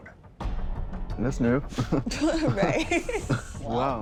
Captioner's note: laughs